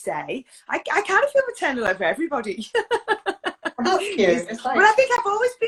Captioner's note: laughs